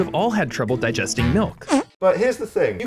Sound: flatulence

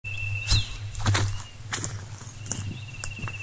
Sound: footsteps

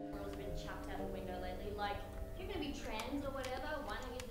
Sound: sad music; audio from video camera plays

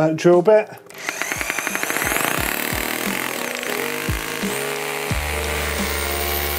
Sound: light music; drilling

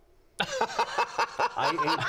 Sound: laughter

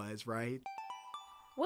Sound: chime

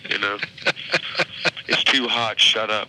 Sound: laughing

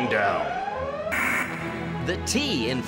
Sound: alarm blaring

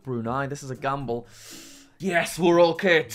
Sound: inhales

